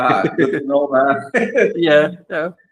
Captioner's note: laughs